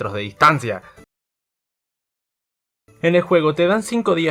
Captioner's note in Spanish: silencio incomodo